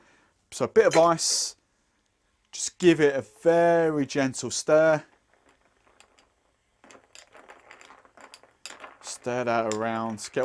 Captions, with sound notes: So bit of ice. Just give it a very gentle stir. (ice clinking) Stir that around.